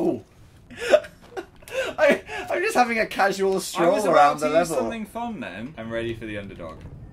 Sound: laughs

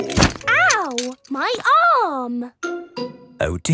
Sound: thumps

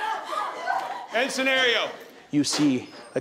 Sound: screaming

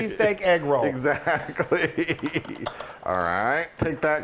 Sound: laugh

